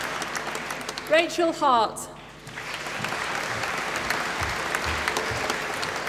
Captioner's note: applause